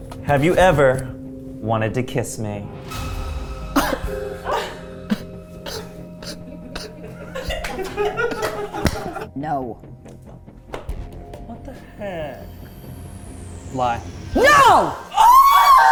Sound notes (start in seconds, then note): 2.5 tense music; 7.0 crew laughing; 10.2 tense music; 12.7 tense music